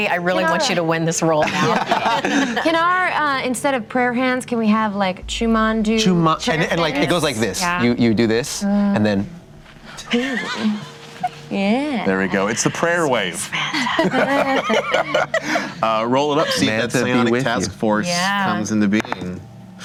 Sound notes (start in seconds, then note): 10.1 light laughter; 13.5 laughing